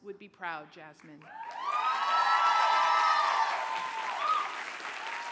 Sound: cheers, applause

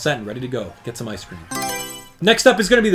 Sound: Mario Selection Sound

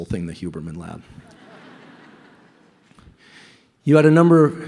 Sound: laughter

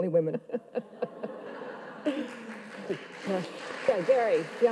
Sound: audience laughs; audience claps

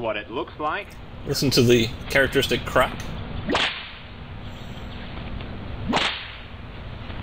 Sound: whip Cracking

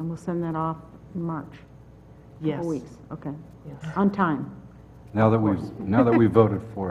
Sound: laugh

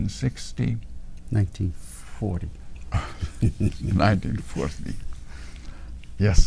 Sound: laughs

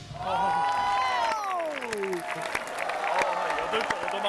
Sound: an Applause

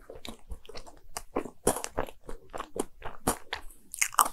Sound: crunching

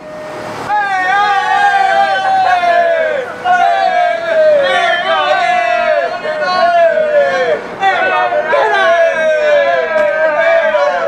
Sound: mindless stereotypical Italian screaming

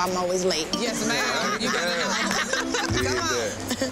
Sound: laughing

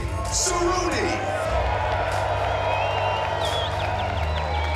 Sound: cheering

